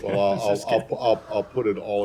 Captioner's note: laughter